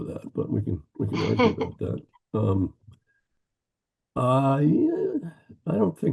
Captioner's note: laughing